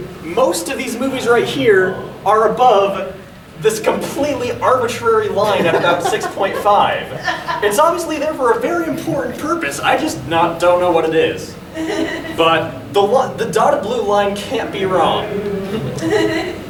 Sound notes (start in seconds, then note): 7.1 audience laughing; 15.2 audience giggling